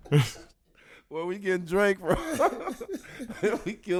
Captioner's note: laughs; laughing; laughs